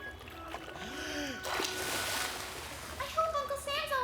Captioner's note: inhales Deeply